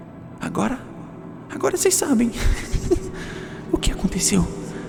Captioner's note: giggle